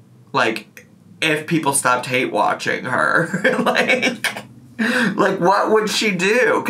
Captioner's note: laughs